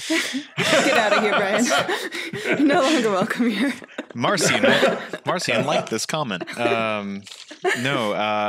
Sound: laughing

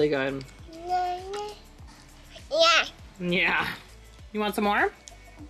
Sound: speaking gibberish

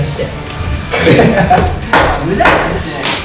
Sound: laugh

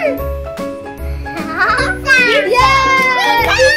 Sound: laughing

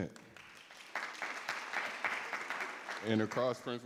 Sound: everyone applauding

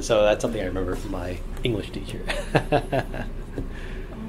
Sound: laughs

